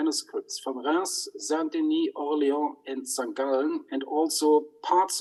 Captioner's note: speaks in foreign language